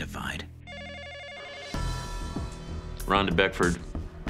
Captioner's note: phone ringing